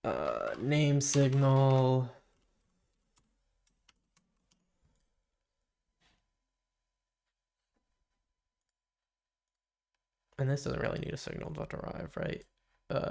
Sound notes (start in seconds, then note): 1.6 silence